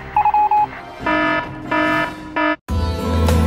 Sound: morse code; alarm

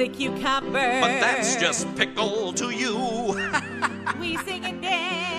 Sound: laughing

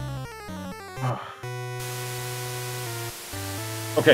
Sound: sighs

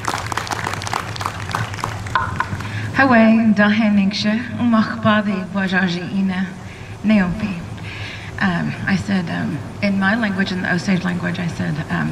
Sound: speaks Osage

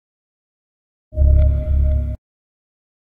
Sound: sound of phantom

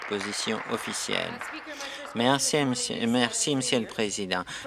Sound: applause

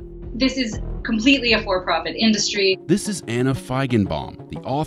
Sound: none

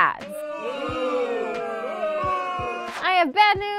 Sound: crowd

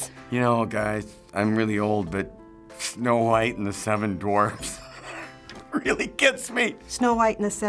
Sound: laughs

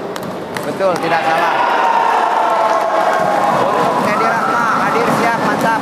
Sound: applause

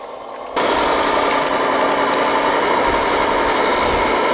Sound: engine chugging

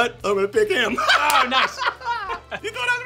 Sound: laughter

